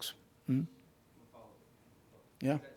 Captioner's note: murmuring